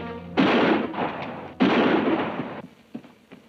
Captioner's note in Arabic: أصوات البنادق